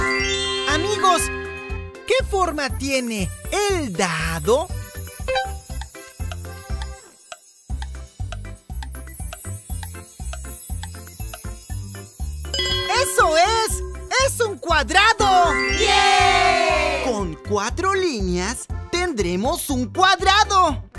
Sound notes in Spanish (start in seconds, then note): 5.0 Sonido de reloj